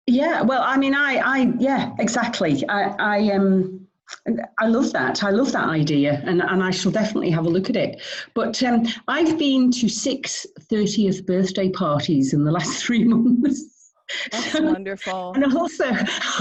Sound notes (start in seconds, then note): 14.2 laughs